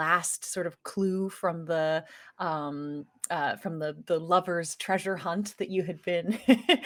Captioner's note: laughing